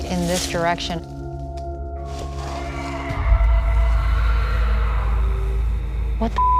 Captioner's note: howling